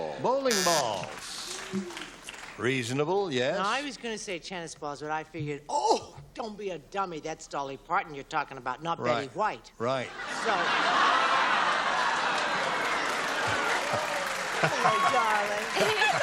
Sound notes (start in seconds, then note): 0.5 buzzer; 10.1 laughter